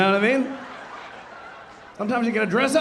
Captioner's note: audience laughing